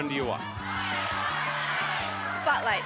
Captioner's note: audience clamors